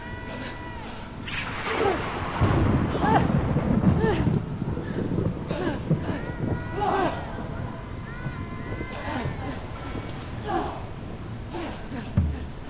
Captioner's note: performers breathe heavily and audibly as they move